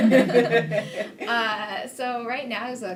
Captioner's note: laughing